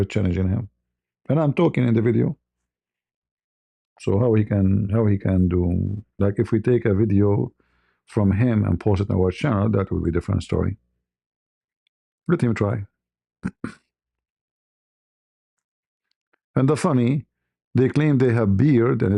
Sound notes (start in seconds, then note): 13.4 berdehem